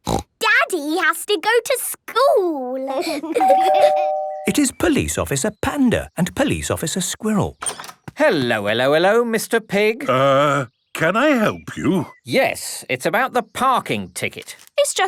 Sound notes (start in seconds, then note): 3.4 door bell ringing